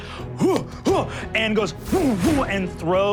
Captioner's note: whooshing